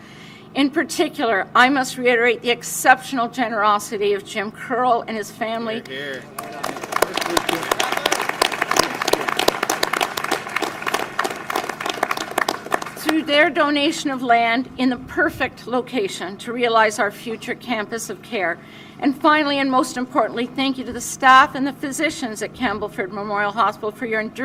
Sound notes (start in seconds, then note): 8.2 applause